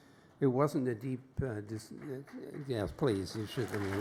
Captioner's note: applause